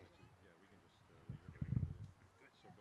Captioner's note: chatter